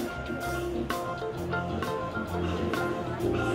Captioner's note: none